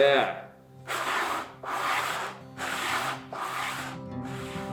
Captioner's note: sanding